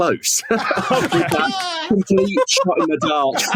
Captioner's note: laughs triumphantly